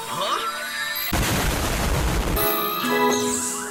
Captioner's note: le boom